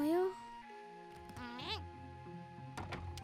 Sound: grunts

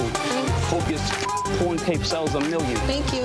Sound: beeps

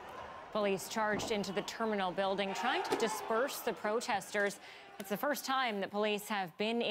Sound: yelling

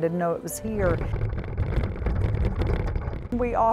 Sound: wagon rattling

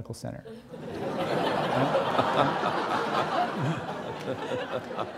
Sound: audience laughing

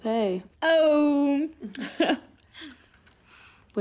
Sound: laugh

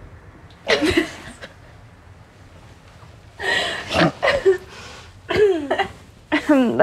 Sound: laughter

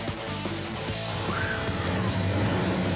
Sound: engine revving

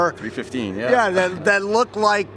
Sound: laughs

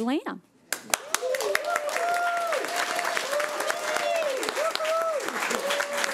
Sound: everyone applauding and cheering

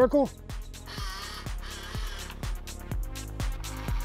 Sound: robot whirs

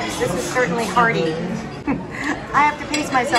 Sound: giggle

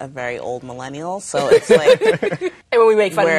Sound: all laughing

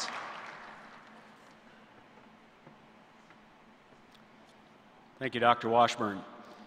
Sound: applause

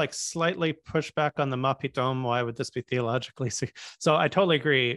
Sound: hebrew

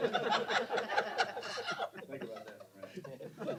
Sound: laughter

